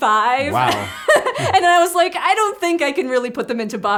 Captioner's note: laughs